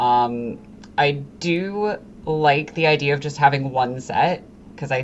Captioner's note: none